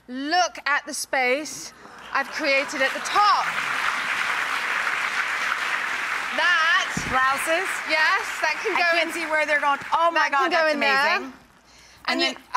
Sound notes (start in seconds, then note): 4.4 applause